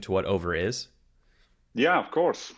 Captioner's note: silence